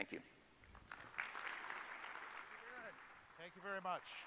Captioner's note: audience claps